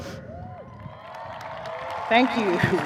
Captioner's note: audience cheering; audience applauding